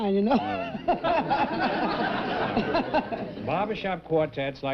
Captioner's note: chuckles